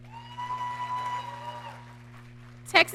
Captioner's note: audience cheering